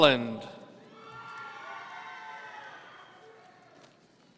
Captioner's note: audience cheering